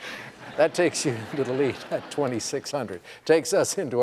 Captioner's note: laughter